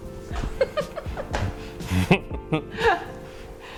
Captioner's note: both Laugh